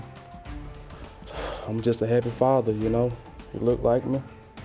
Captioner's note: sighs